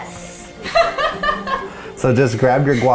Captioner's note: laughing